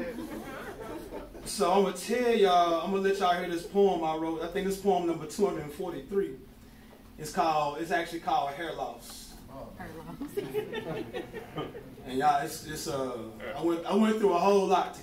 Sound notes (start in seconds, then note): 0.0 light laughing; 9.8 giggling